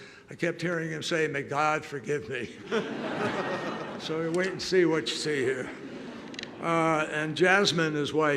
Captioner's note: laughter